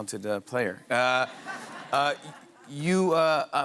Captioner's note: laughter